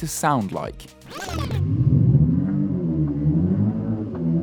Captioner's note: simulated engine noise